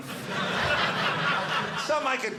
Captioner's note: audience laughing